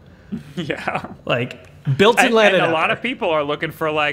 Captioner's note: chuckles